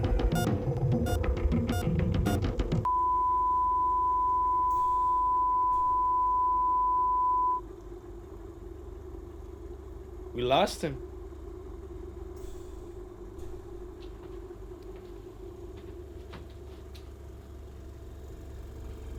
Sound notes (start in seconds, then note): 0.1 rapid beeping; 2.8 long beep